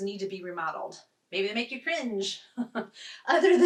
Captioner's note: chuckles